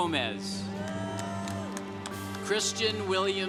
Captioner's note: congregation cheering